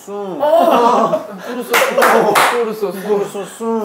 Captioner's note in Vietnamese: Cười